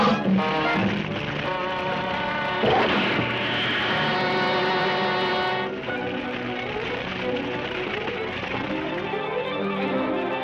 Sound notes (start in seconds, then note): 0.1 flames crackling; 2.6 ape roaring; 5.7 flames crackling